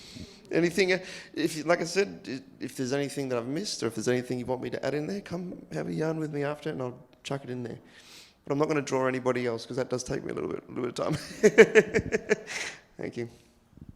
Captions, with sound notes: Like I said, if there's anything that I've missed or if there's anything you want me to add in there, come have a yarn with me after it and I'll chuck it in there, but I'm not gonna draw anybody else, 'cause that does take me a little bit of time, (laughs). Thank you.